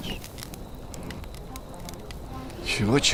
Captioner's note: fire crackling